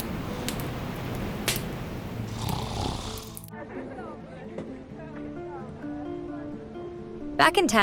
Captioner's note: Jack snoring